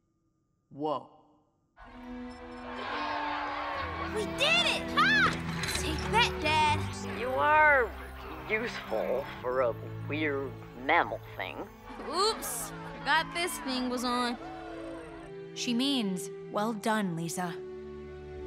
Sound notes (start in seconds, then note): 2.6 Chillas cheering